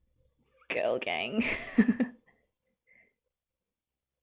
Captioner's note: laughs